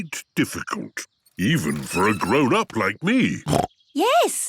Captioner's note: snorts